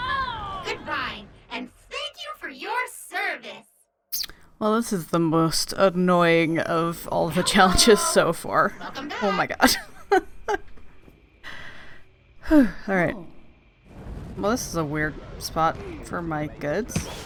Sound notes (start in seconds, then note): 8.8 bitter laughter; 11.4 sighs